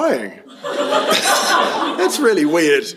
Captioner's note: laughter